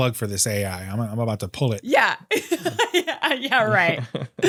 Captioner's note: laughs